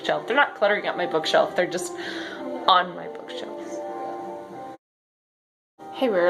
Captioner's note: sigh